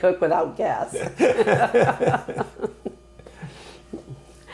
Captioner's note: laughing